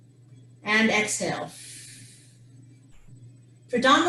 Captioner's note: exhales